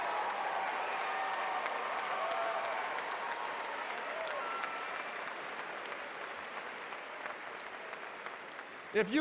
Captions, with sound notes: one of our graduates would you please stand. [ Applause ]